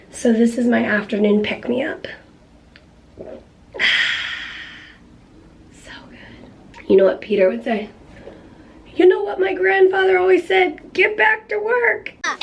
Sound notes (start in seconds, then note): none